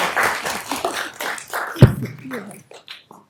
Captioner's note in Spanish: Aplausos